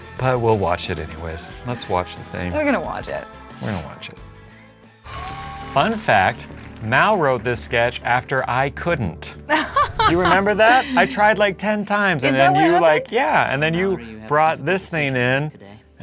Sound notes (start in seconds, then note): 9.5 laughs